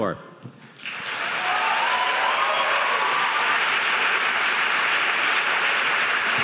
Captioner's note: audience applauding and cheering